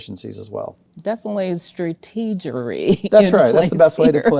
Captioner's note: laughs